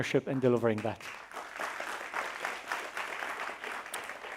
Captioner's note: applause